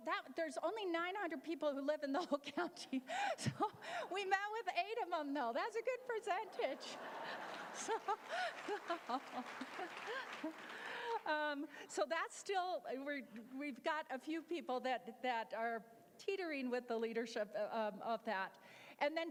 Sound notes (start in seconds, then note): 6.4 laughter; 10.1 applause